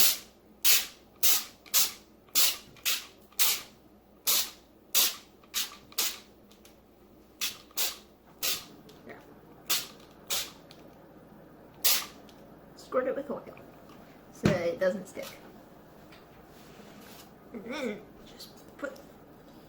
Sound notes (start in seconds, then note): 0.1 sounds of spraying foil with oil; 9.6 more oil hitting foil